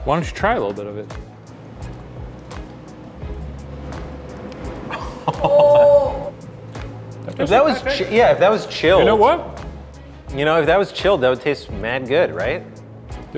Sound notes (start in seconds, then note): 5.4 laughing